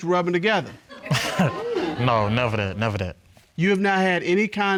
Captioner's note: chuckles